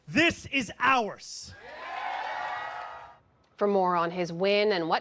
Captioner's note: cheering